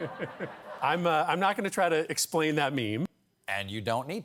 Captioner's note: laughing